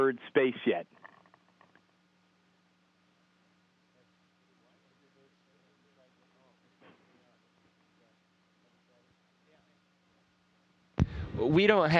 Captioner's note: no audio